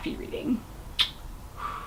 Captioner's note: blows kiss